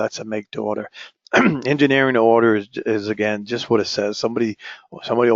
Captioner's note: cough